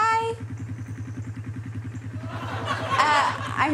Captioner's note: engine idling